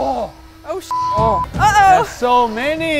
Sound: beep

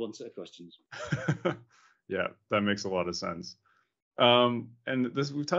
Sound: laughs

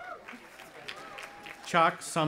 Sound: audience applauding

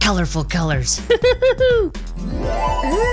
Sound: Dr. McTinker laughs

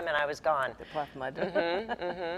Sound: laughs

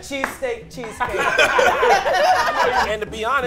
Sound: group laughs

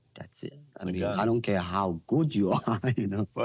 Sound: laughs

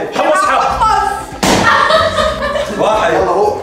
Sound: laughing

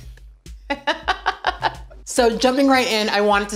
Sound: laughs

